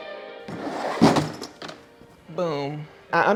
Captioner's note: container clacking; container whooshing